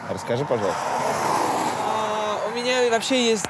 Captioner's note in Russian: шум проезжающей машины